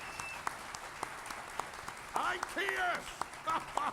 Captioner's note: laughter